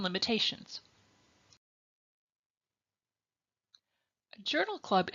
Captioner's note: silence